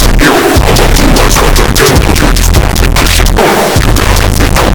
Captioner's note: oof